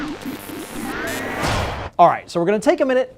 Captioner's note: antenna transmitting electrical signals; percussive hit